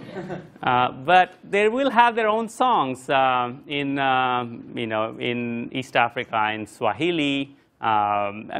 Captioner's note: laugh